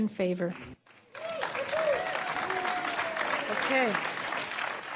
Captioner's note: cheering and Clapping